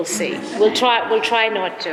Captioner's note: audience laughs